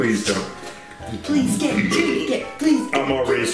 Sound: chanting

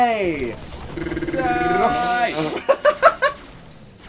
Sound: gun noises; laughs

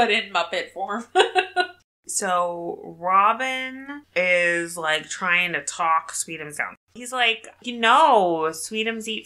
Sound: laughs

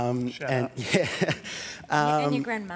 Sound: laughs

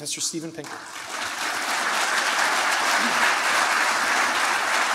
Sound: applause

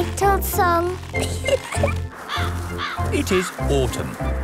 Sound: giggling; birds cawing

